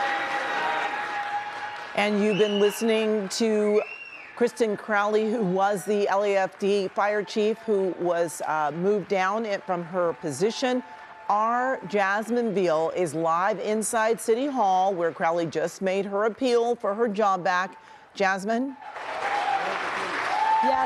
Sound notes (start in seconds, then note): 5.8 applause